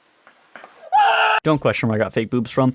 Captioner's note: groaning; screams